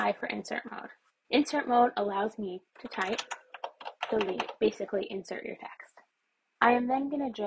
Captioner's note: keyboard buttons pressed